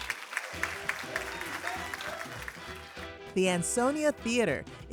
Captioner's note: audience applauding